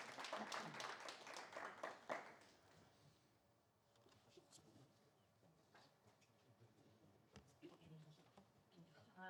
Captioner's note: applause